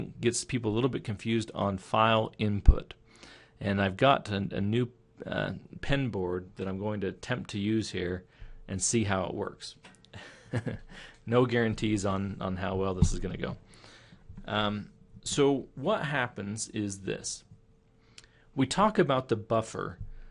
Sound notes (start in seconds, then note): 10.1 chuckling